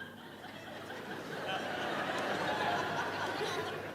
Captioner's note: audience laughing